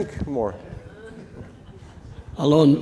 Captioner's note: audience chuckling